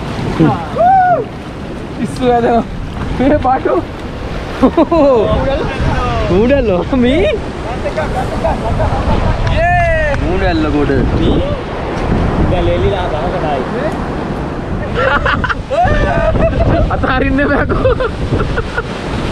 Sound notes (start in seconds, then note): 5.3 heavy wind; 14.5 heavy wind